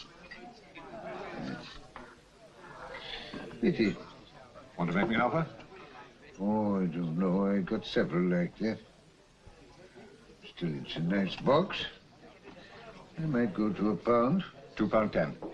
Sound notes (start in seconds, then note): none